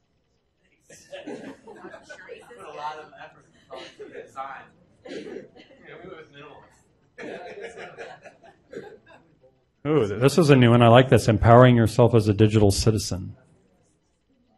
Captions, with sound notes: - Put a lot of effort when it comes to design. (group laughing) - Oh, this is a new one, I like this, "Empowering Yourself as a Digital Citizen."